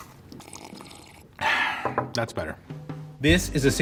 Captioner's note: sighs